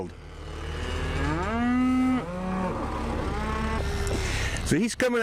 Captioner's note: cattle sounds